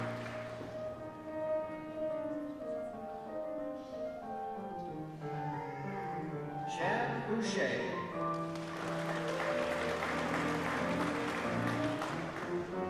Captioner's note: applause